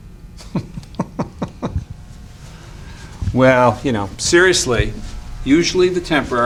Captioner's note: chuckles